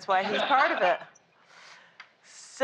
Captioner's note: laughter